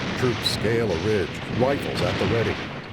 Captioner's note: explosion; machine-gun fire